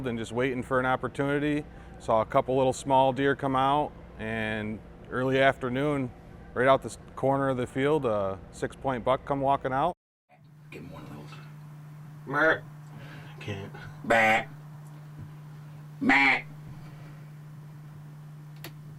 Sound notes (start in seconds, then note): 14.0 imitates doe bleat sound; 14.0 repeating doe bleat sounds